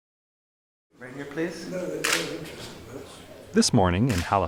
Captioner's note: camera shutter sounds